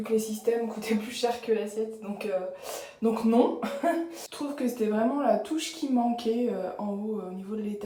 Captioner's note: laughs